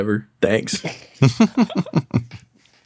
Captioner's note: chuckles